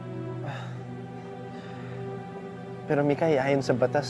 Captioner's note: sighs